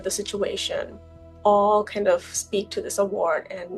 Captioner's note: none